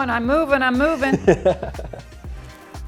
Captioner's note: laughing